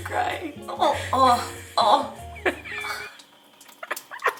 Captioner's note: snorting